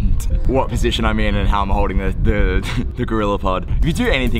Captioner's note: laughing